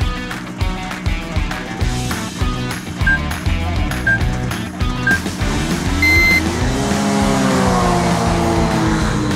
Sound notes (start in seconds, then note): 6.6 engine revving